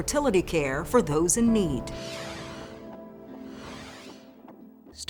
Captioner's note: swoosh effect